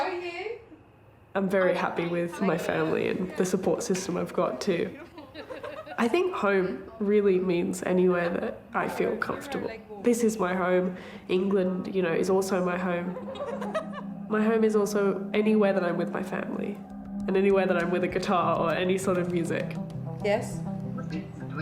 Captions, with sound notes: - How are you? - I'm very happy with my family, and the support system I've got too. (family laughing) I think home really means anywhere that I feel comfortable. This is my home. England is also my home. (family laughing) My home is also anywhere that I'm with my family, and anywhere that I'm with a guitar or any sort of music. (upbeat electronic music) - Yes?